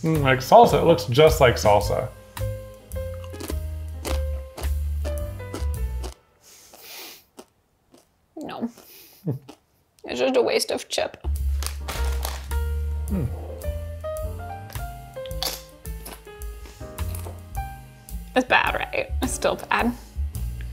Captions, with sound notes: Mm, like salsa, it looks just like salsa. (chip crunches) No, it's just a waste of chip. (lounge music) (chip crunches) It's bad, right? It's still bad.